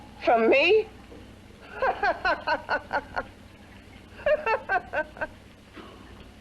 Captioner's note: laughs